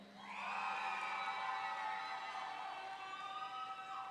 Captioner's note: audience cheering